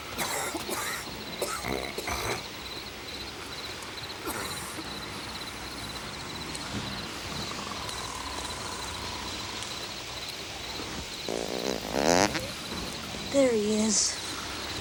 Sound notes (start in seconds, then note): 0.2 gang member coughs; 4.2 gang member coughs; 5.8 gang members snore; 10.9 gang member farts